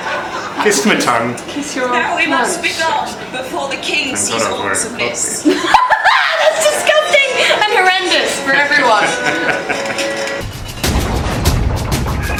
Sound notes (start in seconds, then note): 4.3 whispers; 5.8 laughs; 9.0 dramatic music plays